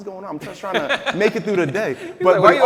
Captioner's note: laughing